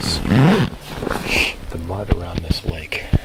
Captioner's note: zipper unzipping